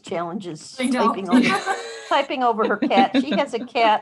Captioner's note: chuckles